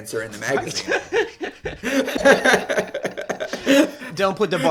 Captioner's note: laughter